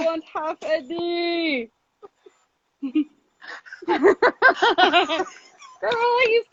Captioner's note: laughs